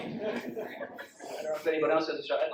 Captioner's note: audience laughs